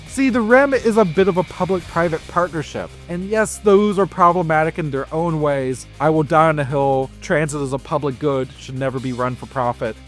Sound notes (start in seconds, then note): none